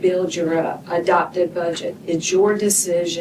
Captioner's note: none